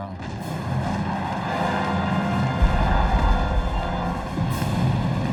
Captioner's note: suspenseful music; explosions